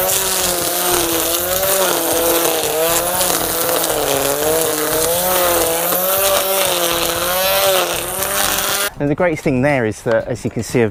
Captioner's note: bosch art23 strimmer noise